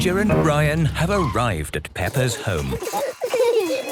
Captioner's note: giggling; phone ringing